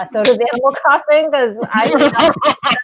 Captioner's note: laughing